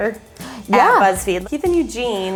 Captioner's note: gasps